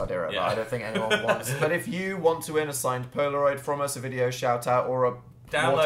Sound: laughs

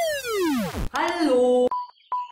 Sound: battery dead sound

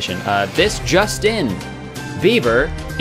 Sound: news Report Sound effects

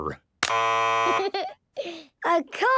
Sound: buzzes

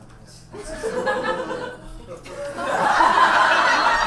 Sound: audience laughs

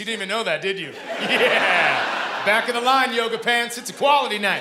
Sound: laughing

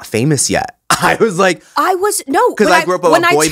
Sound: laugh

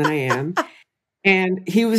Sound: laughs

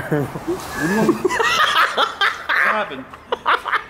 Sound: laughs

